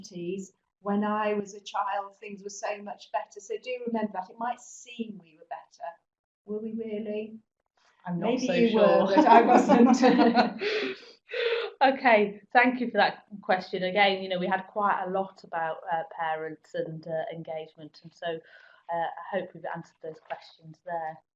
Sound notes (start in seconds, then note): 11.2 laugh